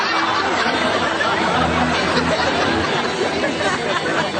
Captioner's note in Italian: risate